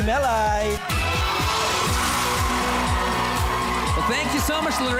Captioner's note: audience cheering